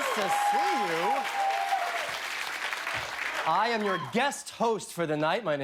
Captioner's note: cheers and applause